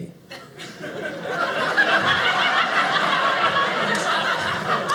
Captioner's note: audience laughing